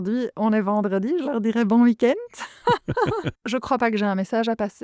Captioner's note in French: Rires